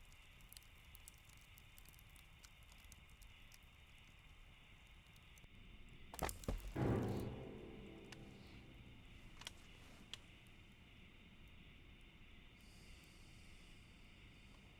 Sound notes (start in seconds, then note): 6.2 thumping; 7.7 crickets chirping